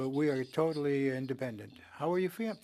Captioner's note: speaking french